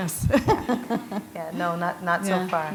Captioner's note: chuckle